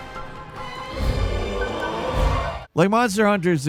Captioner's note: monster roaring